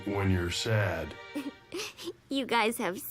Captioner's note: giggles